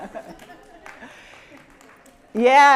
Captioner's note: laughter; applause